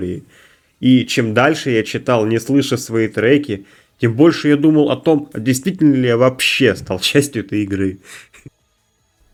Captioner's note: laughs